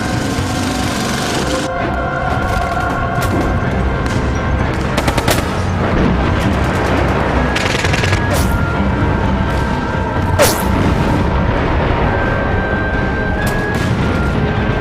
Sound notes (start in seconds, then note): 4.7 guns firing